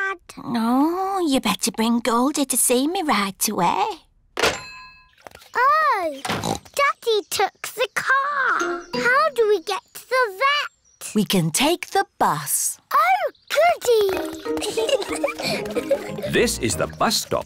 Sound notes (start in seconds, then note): 5.7 oinks; 13.9 children giggle